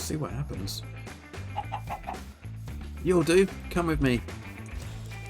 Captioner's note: cluck cluck cluck